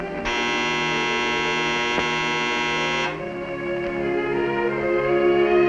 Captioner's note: buzzer